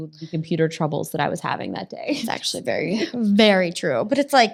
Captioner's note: laughs